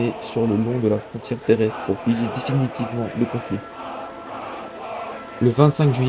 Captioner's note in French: cri